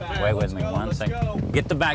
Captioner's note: tapping